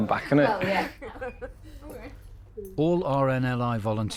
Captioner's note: everybody laughs